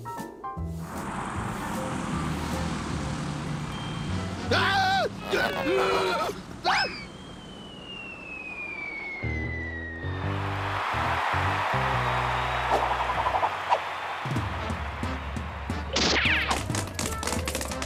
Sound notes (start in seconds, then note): 4.4 groaning; 4.4 screams; 10.4 crowd cheers